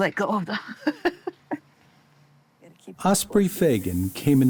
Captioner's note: laughs